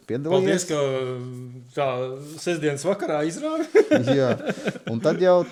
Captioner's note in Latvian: smiekli